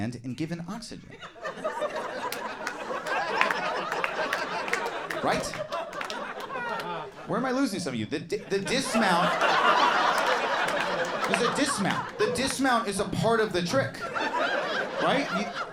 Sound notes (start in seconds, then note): 1.3 audience laughing and applauding; 10.3 audience laughing